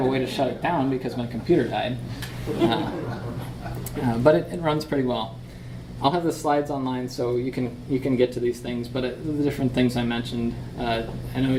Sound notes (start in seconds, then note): 2.4 audience laughs